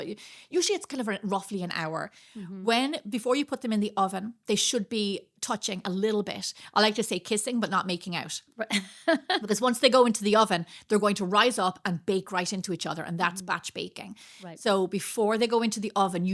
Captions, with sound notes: but usually it's kind of roughly an hour. When, before you put them in the oven, they should be touching a little bit. I like to say kissing, but not making out. (laughing) Because once they go into the oven, they're going to rise up and bake right into each other. And that's batch baking. So before they go into the oven,